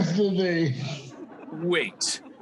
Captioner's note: audience laughing